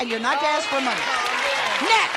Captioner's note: applause